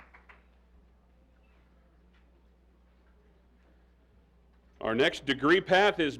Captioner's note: applause